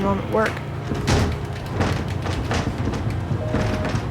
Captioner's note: banging; dial tone